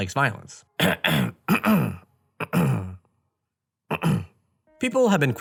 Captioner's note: clears throat repeatedly